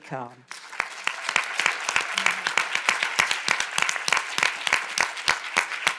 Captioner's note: audience applauding